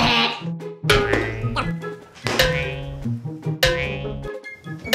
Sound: cartoony bounce

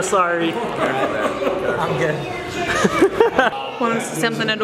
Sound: laughs

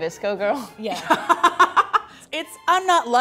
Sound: laughs

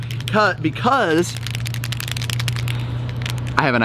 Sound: marker rattling

